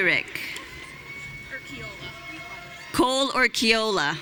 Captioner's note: audience cheering